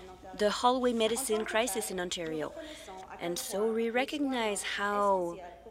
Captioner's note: speaking French